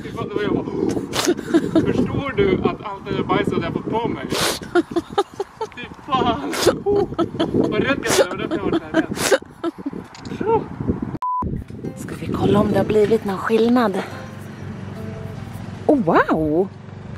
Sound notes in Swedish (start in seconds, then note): 6.4 skrattar; 6.5 kiknar av skratt